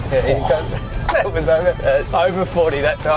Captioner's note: laughter